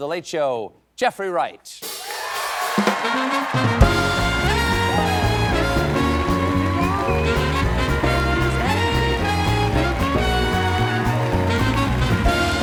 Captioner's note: cheers and applause